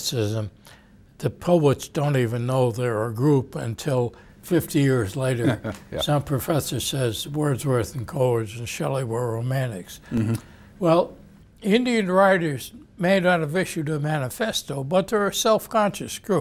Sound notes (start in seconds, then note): 5.4 laughs